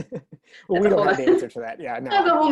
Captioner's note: laughter